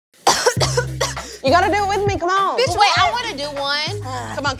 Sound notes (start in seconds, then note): 0.2 coughs